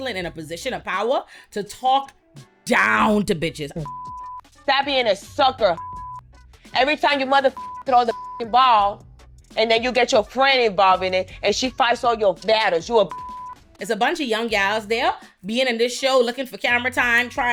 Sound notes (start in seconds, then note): 3.7 beep; 5.7 beep; 7.5 beep; 13.1 beep